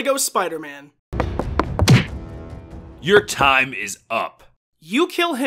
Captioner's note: fight music; footsteps